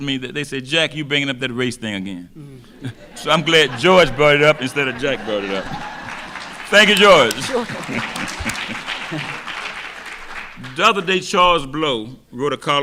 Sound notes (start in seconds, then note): 6.2 audience laughing; 8.6 laughs; 9.3 audience clapping